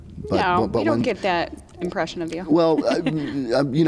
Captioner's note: laughs